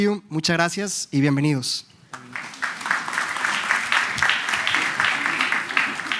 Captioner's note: applause